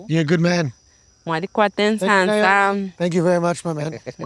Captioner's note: interpreter speaking in foreign language